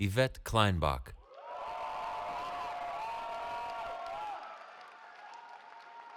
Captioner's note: cheering